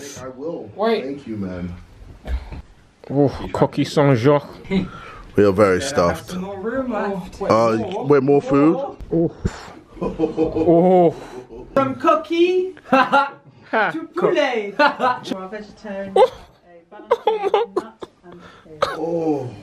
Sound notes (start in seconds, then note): 13.1 laughing; 16.1 laughing